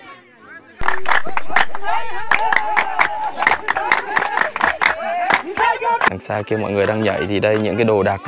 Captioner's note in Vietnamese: Vỗ tay